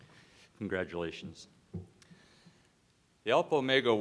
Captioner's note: voiceover